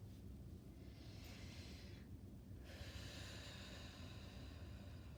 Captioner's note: breathing deeply